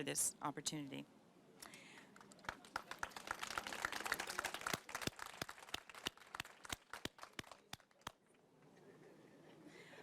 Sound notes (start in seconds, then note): 7.3 applause